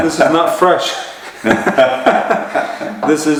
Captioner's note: laughter